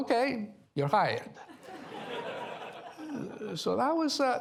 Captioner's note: laughter